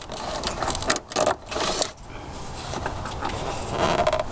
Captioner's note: plastic squeaking